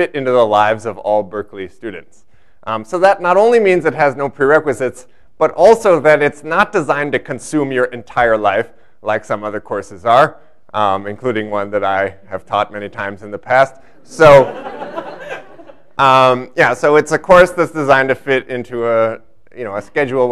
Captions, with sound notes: into the lives of all Berkeley students. So that not only means it has no prerequisites, but also that it's not designed to consume your entire life like some other courses are, including one that I have taught many times in the past. [LAUGHTER] Yeah, so it's a course that's designed to fit into a schedule